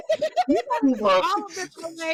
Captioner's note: laughing